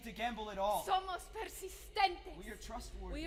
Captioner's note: speaking Spanish